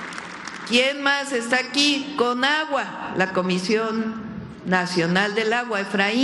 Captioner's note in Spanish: aplausos